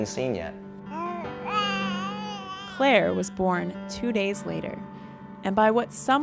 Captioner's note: baby crying